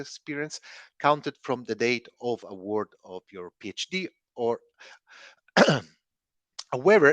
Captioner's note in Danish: coughs